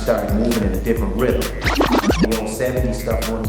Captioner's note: scrubbing